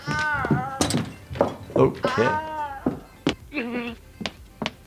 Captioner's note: painful groans